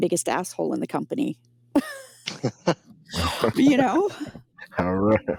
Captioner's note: laughing